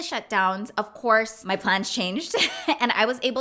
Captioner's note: chuckles